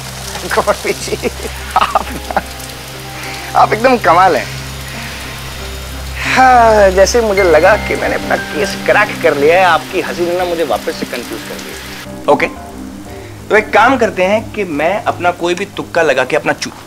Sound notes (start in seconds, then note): 1.2 Advocate laughs; 6.0 Advocate sighs